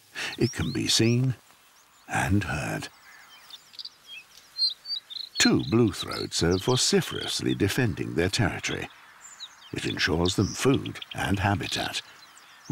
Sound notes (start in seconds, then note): 3.5 birdsong